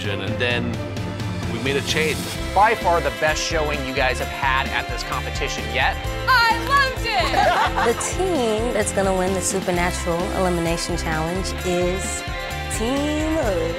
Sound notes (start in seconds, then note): 7.2 laughter